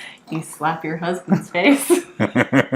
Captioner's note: laughing